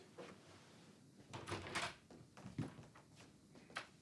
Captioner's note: door opens